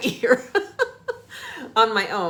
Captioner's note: laughing